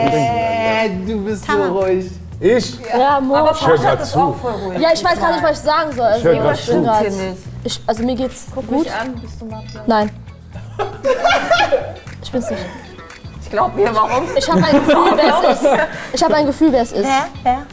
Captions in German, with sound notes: Ähhh, du bist zu ruhig. - Ich? Ja, Mo. - Ich hör halt zu. Aber Parshad ist auch voll ruhig. Ich weiß gar nicht, was ich sagen soll. Also, mir geht's ... Guck mich an. Bist du Mafia? - Nein. (Lachen) Ich bin's nicht. Ich glaub ihr. Warum? - Ich hab ein Gefühl, wer es ist. Ich hab ein Gefühl, wer es ist. - Wer?